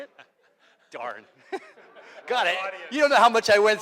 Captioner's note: laughs